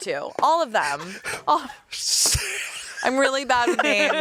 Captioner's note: laughs